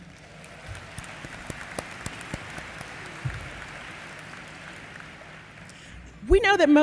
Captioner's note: applause